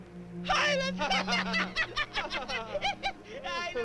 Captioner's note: laughs